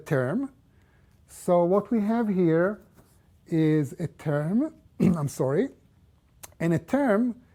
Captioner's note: cough